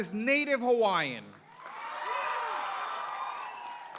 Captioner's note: applause